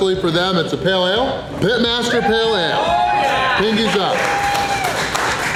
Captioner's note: crowd